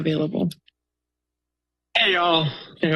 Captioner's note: silence